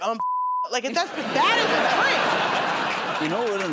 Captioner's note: laughter